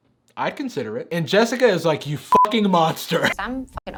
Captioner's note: beep